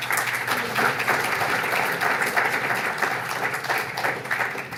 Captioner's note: audience applauds